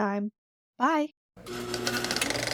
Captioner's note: projector whirring